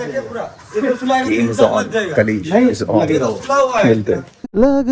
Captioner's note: chatter